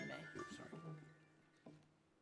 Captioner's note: phone ringing